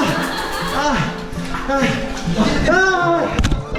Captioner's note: laughter; gasping